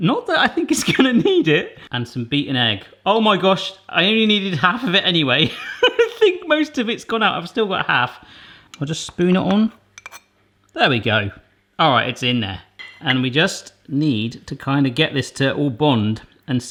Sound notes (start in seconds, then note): 5.7 laughing